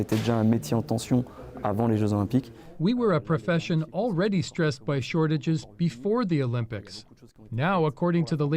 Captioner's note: speaking French